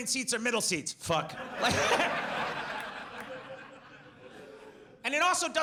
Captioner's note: audience laughs; laughs